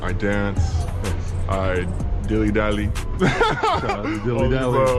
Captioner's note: laughing